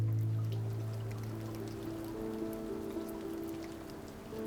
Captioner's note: patter of rain